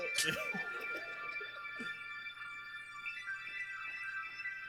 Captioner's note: laughs